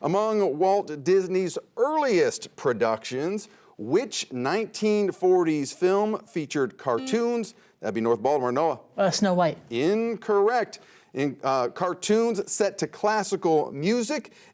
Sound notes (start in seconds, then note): 7.3 buzzer sounds